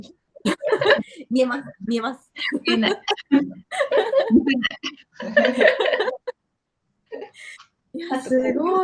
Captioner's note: laughs